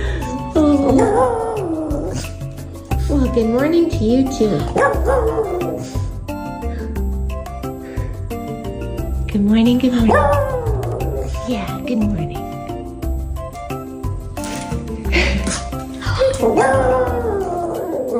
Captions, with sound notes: (dog howling) Well, good morning to you too. (dog howling) Good morning, good morning. (dog howling) Yeah, good morning. (dog howling)